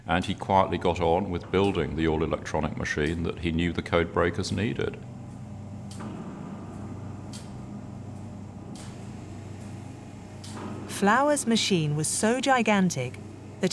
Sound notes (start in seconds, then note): 6.0 machine clicking; 6.0 machine humming